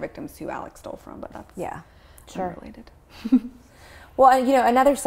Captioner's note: chuckles